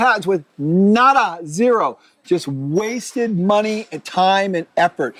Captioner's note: speaking in foreign language